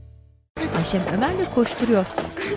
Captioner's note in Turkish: Ayak sesleri